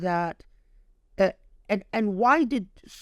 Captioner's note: speaking Arabic